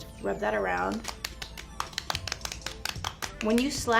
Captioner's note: slapping